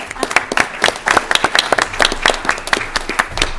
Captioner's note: applause